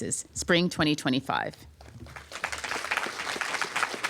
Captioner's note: applause